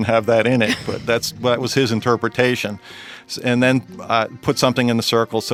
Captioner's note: laughs